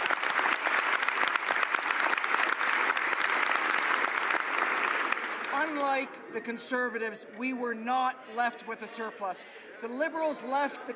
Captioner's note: some Applause